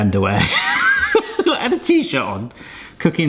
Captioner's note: laughs